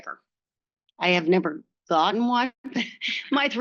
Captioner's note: laughs